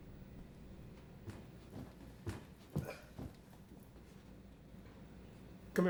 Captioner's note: Vargas grunts; footsteps approaching